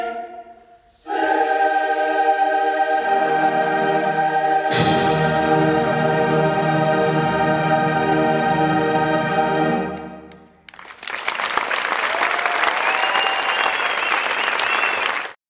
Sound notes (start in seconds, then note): 10.6 applause